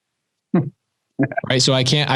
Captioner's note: laughs